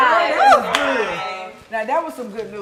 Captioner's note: claps